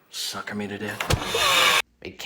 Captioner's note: muffled screaming